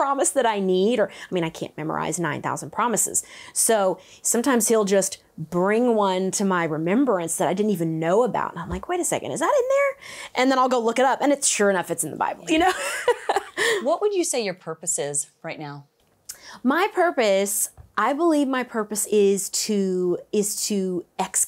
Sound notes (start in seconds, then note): 13.2 laughs